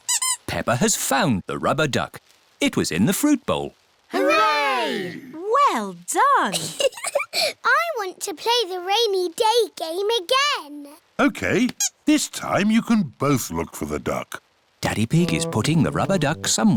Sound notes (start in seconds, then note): 0.0 squeaking; 6.5 laughs